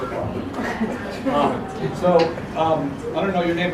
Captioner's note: laugh